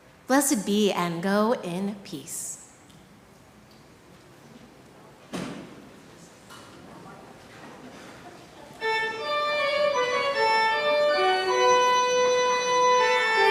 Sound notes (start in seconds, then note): 6.7 group chattering; 8.8 upbeat organ music